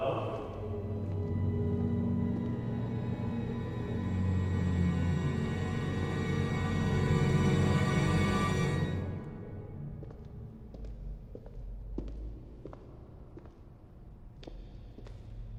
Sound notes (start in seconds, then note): 1.8 foreboding eerie music intensifies; 9.9 footsteps tapping